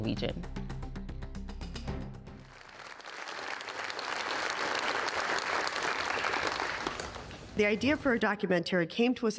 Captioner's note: applause